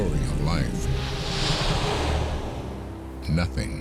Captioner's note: whooshing